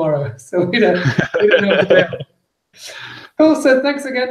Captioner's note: laughs